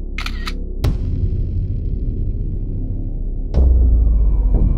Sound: ominous impact and rumble

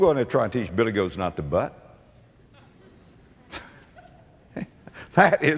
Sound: audience laughter

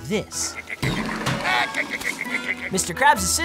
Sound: laughing

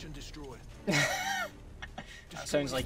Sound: laughs

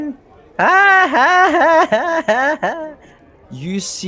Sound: boisterous laughter

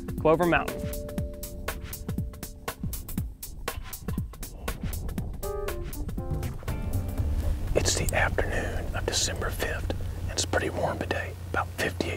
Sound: whispering

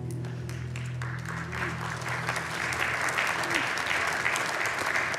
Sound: congregation clapping

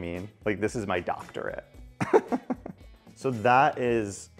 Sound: laughing

